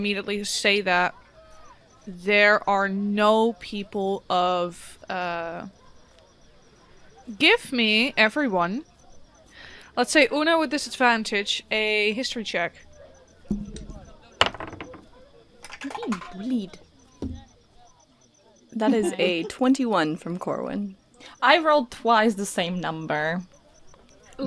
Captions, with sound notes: immediately say that, there are no people of— Give me, everyone, let’s say Una with Disadvantage, a History check. [Assorted dice clacks, clunks, and clonks] I'm being bullied. That is a 21 from Corwin. I rolled twice the same number.